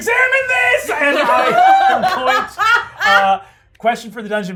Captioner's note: everyone laughing